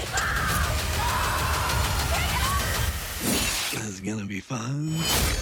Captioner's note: screams